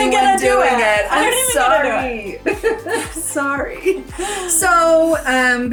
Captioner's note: laughs